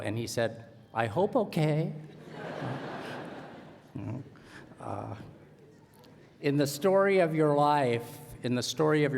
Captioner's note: laughter